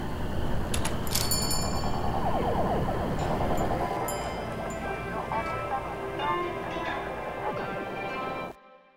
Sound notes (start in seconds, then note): 1.0 door jingling